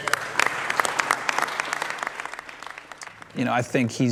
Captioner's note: applause